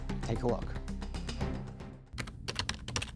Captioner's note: clicking of keyboard